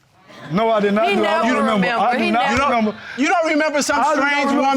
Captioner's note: stammers